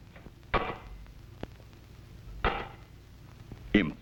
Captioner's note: clangs